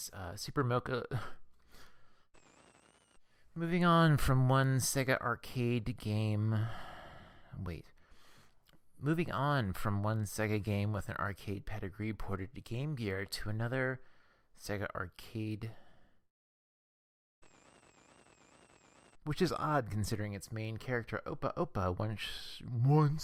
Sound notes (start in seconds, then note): 2.4 static; 17.5 static